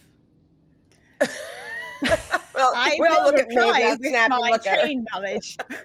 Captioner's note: indistinct chatter and laughter